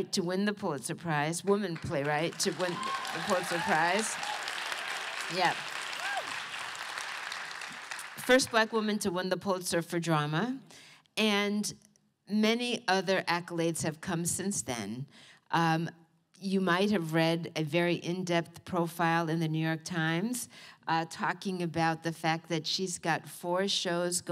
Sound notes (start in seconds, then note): 5.5 applause